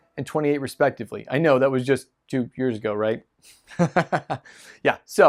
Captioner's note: laughing